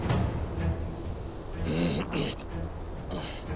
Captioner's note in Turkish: Boğaz hışırtısı